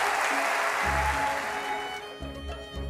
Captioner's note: applause